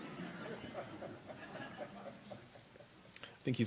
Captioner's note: laughter